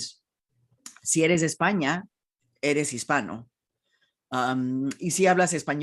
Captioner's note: speaking in foreign language